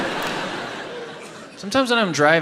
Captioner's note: audience laughs